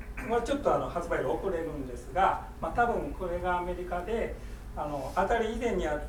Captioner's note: speaking in foreign language